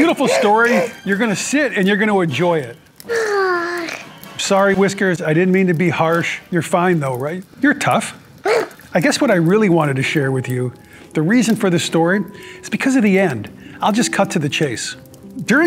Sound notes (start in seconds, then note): 0.0 Scot sniffs, Whiskers is shocked; 3.0 Whiskers sighs